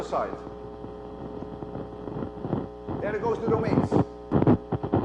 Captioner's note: cracking noise; cracking noise